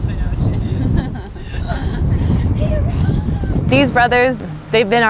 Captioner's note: chuckling